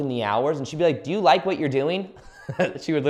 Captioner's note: chuckles